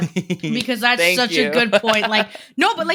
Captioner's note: laughs